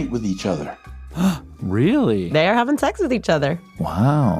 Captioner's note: gasps